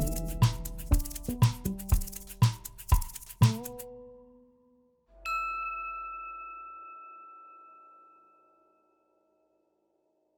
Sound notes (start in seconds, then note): 0.0 bright music; 5.2 image dings